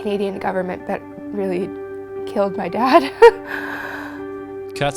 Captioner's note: laughs